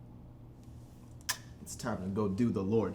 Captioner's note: kiss